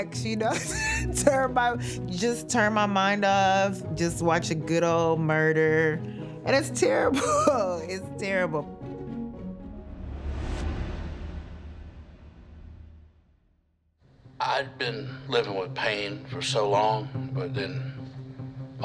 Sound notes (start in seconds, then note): 7.1 chuckles